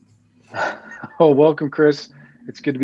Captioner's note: chuckles